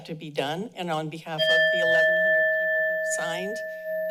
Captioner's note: bell rings